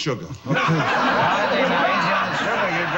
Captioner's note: audience laughs